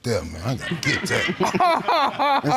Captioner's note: laughing